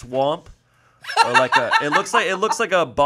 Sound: laughs

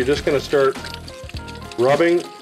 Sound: water running

